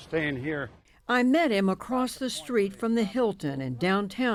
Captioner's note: voice-over